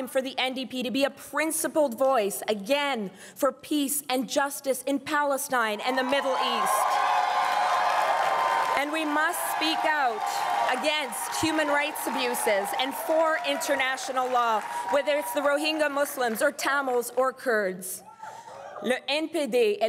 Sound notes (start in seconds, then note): 7.1 crowd cheering and applauding